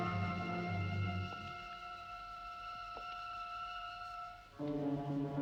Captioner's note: footsteps tapping